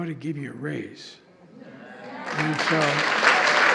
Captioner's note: applause